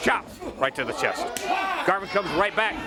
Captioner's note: crowd chatter